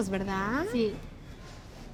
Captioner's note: speaking Spanish